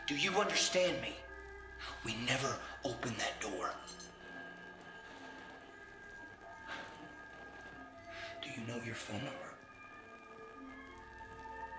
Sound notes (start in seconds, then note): 4.2 static crackling; 4.6 soft orchestral music